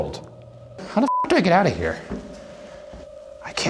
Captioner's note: beep